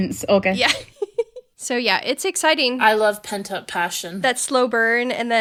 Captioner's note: laughing